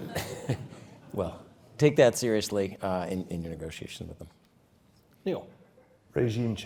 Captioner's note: laugh